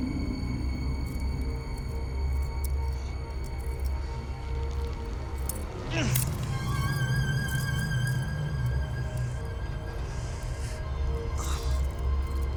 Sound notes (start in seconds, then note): 6.0 grunts; 7.3 ominous music